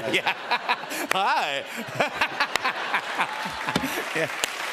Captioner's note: laughter